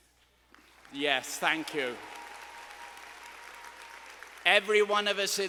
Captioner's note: students applauding